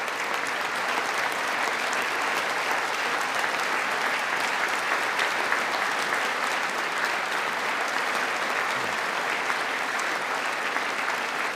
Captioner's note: applause